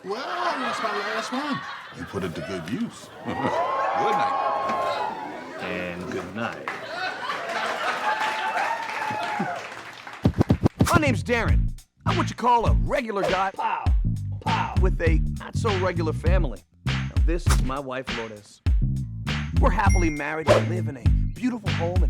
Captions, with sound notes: - Well, it's my last one. Put it to good use. (audience whoops) Good night. - And good night. (audience laughs) My name's Darren. I'm what you call a regular guy. Pow, pow. With a not so regular family. This is my wife, Lourdes. We're happily married, we live in a beautiful home